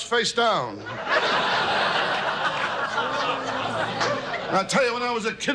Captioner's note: audience laughs